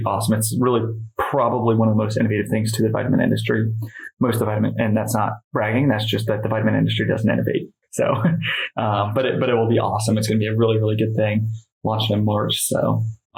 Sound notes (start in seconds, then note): 8.0 laughs